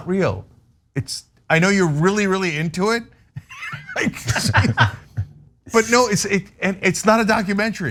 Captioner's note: laugh